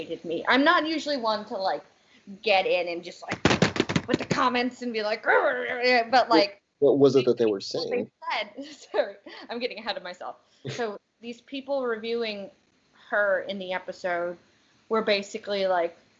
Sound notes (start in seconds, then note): 3.3 loud typing; 5.1 grunting